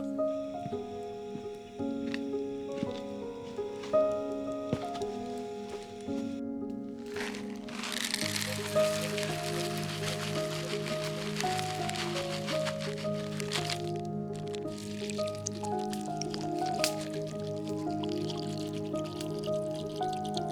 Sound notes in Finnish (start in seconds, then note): 0.0 tuli räiskyy nuotiossa, taustalla kolinaa; 0.4 kiehuva vesi, askelia taustalla; 6.4 muovipussi rapisee, mysli ropisee